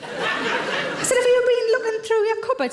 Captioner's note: audience chuckles